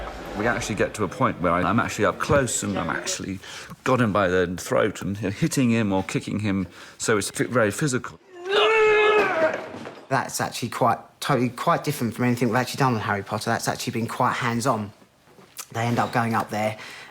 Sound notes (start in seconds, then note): 8.3 both grunting